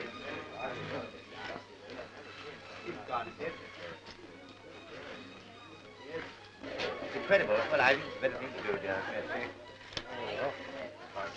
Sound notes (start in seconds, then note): 0.8 group chattering